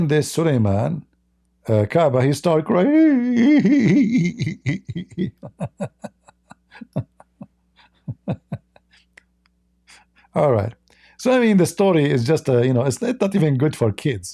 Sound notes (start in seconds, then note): 6.0 Ketawa